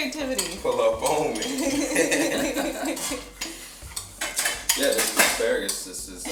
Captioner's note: group laughs